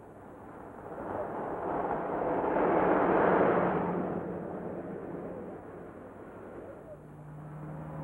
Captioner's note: car rumbles